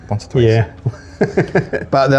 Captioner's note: laughing